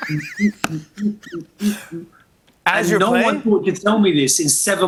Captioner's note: humming; laughs